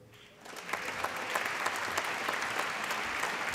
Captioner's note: applause